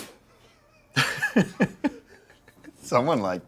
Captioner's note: laughs